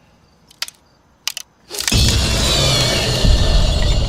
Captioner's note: bones crackling. GUARD inhales sharply through nose